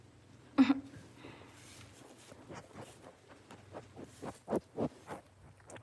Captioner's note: Gigi kisses